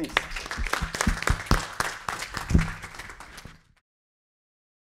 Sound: applause

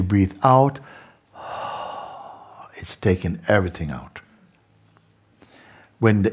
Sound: long exhale

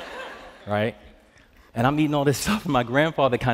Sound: laughter; normal voice

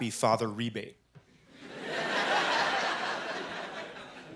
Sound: laughter

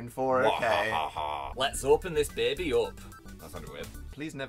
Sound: in a thicc northern accent

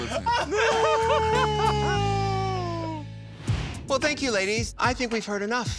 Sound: all laughing

